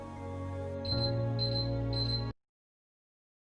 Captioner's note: beeping